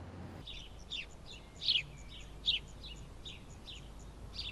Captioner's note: birds singing